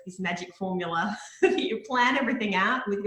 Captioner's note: laughing